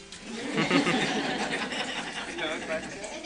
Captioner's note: laughter